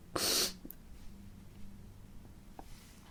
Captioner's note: sniffs